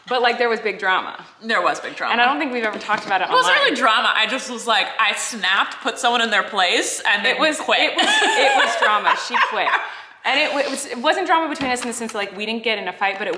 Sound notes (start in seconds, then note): 10.4 laughing